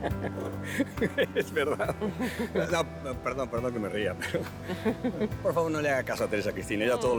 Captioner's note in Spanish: Risas